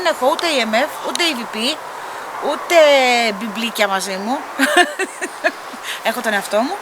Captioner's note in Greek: γέλια